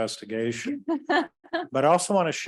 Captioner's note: laughing